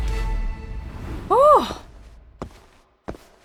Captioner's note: sighs in relief